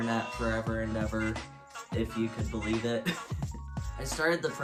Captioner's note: laughs